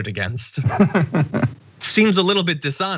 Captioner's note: laugh